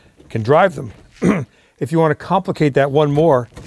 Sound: clearing throat

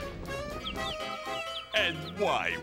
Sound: birds tweeting

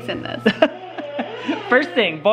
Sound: laughing

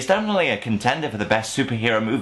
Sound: none

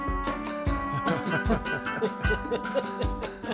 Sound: laughs

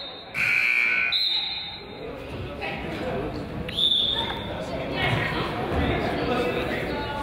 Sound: whistle blows; buzzer honks

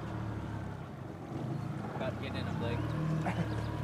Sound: boat engine idling

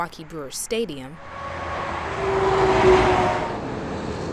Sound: car whirring

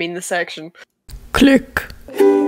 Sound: click

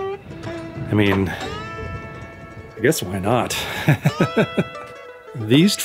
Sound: laughter

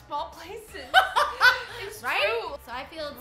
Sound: laughing

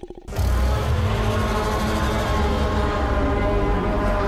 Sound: monster snarling; monster screaming

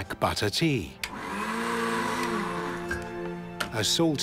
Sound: blender whirring

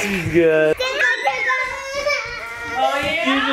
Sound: begins crying

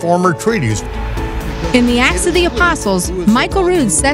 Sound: voiceover

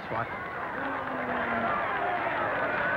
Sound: crowd roaring

